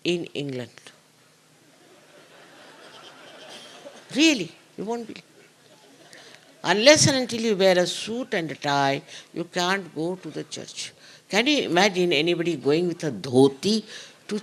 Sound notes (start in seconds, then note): 4.5 laughter